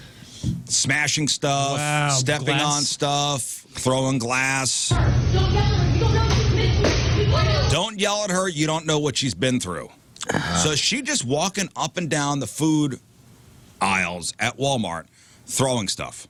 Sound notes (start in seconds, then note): 5.3 yelling